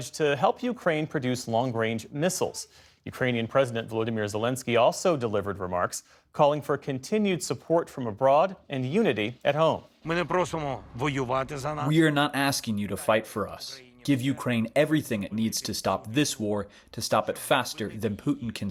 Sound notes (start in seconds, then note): 12.3 through translator